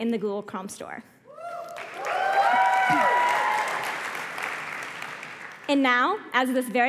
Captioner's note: applause